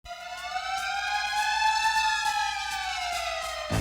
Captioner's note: siren